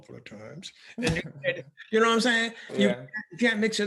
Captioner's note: laughing